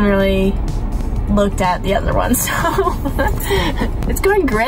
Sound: chuckles

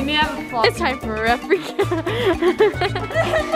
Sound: laughs

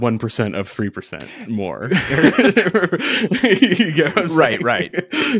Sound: laughing

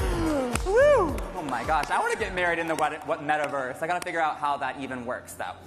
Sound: applause

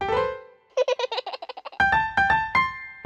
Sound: piano roll; baby giggles; piano plays

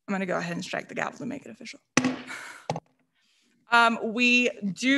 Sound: gavel thudding

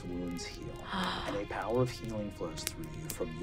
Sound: gasps

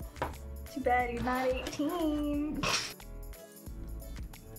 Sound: scoffs

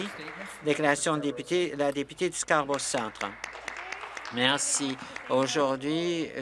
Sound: some Applause

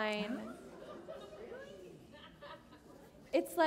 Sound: laughter

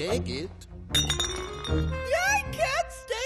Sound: bottle clinks

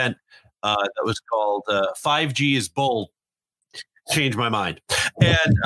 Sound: laughs

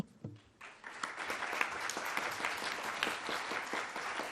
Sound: audience clapping

